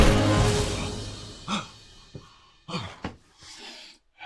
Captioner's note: Bruce breathing heavily